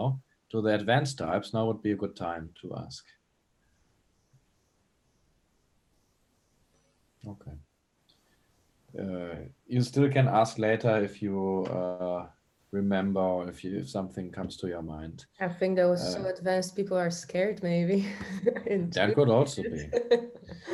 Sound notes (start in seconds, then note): 18.1 chuckles